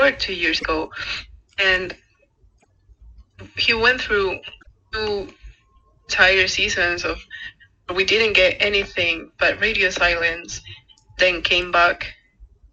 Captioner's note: laughs